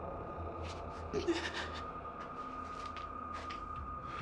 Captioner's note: sobbing